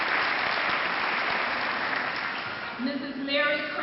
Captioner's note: clapping